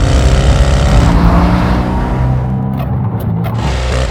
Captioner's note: acceleration and double clutching shifting